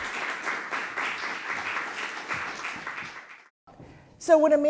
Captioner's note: applause